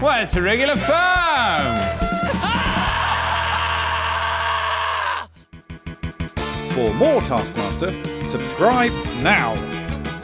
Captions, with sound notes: - Why, it's a regular farm. - (SCREAMS)